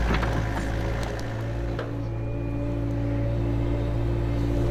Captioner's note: machine sounds